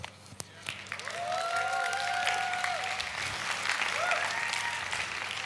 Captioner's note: audience clapping